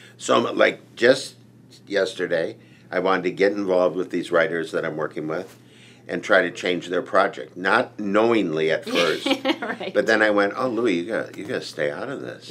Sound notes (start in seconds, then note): 8.9 laughs